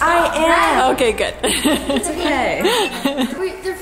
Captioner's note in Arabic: الأم تضحك